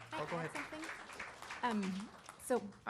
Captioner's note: audience applauding